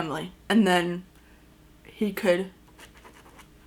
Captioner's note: pen writing